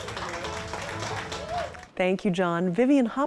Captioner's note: audience applauding